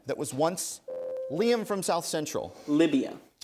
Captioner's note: ding